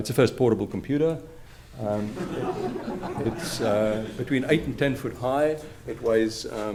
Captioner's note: laughter